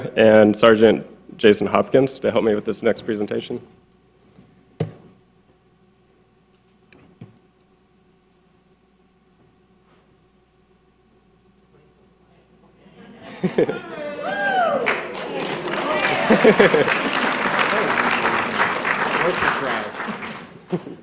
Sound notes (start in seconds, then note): 13.2 audience laughing, clapping and cheering